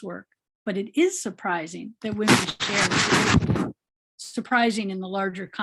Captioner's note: microphone static